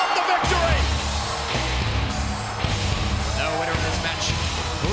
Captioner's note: bell rings